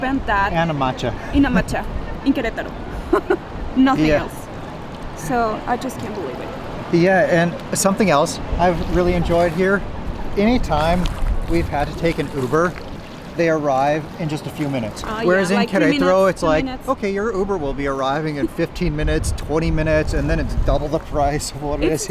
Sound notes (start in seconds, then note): 2.9 laughs